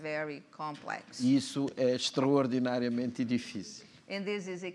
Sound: speaking portuguese

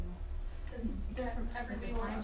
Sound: students talking

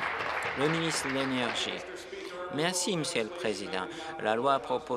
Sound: applause

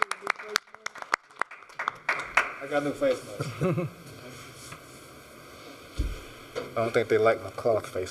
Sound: applause; laughter

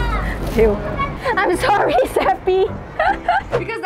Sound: laughs

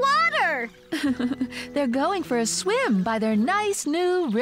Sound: chuckling

